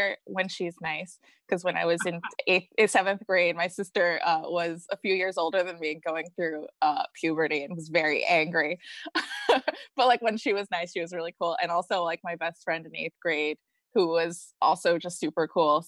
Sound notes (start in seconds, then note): 8.5 laughs